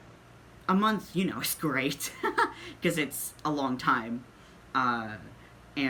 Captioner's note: laughs